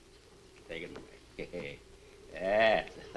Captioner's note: chuckles